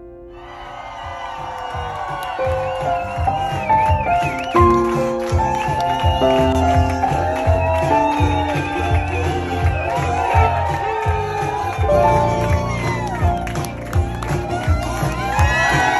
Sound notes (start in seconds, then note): 0.6 crowd cheering